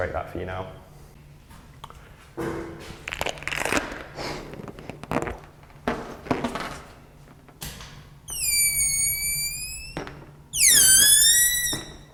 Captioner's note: balloon being blown up; the sound of air escaping a balloon- repeated